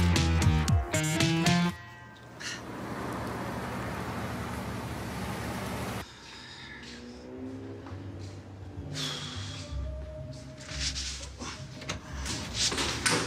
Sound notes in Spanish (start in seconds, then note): none